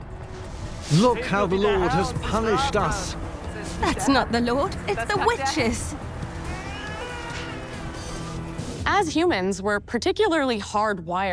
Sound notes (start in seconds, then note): 6.4 baby cries